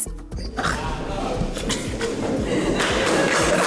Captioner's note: laughs; crowd clapping